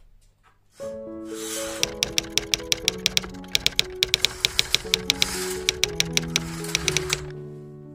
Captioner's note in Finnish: kirjoituskoneen naputusta